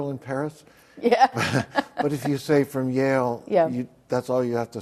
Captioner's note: laughs